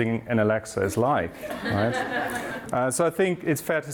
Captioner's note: crowd laughing